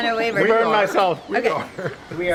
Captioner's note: laughter